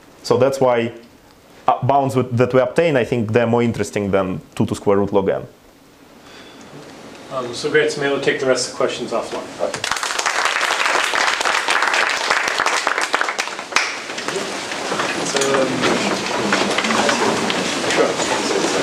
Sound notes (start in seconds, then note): 9.8 applause; 14.1 background chatter